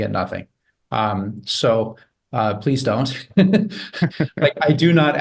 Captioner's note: laughs